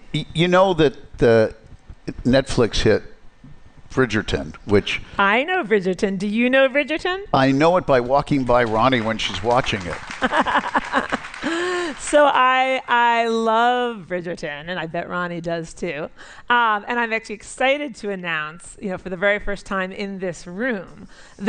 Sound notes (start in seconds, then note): 10.1 laughs; 10.2 applause